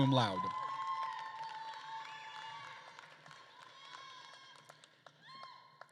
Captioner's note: attendees cheering and applauding